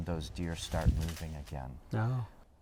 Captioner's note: leaves rustling